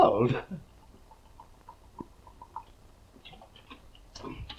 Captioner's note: whisky gurgling